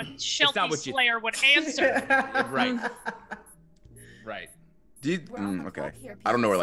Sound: laugh

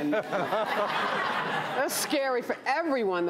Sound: laughs

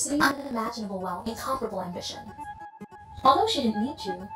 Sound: glitch

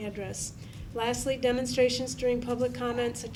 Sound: none

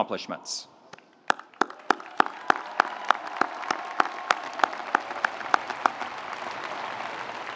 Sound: audience applauding; audience cheering

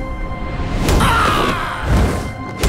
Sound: grunting

